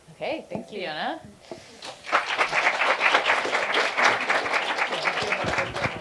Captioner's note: applause